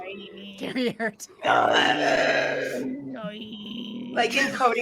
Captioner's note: laughs